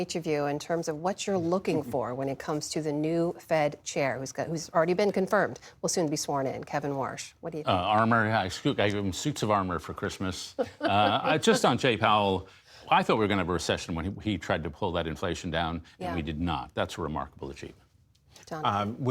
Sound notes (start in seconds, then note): 10.5 laughter